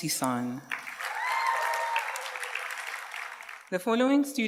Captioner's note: audience cheers and applauds